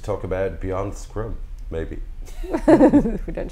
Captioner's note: laughs